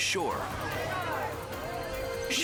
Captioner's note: surfers chattering